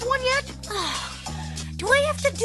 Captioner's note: sighs